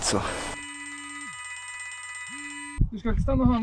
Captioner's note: phones ringing